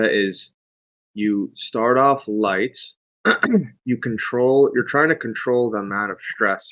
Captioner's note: clears throat